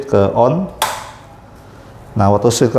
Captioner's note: button noise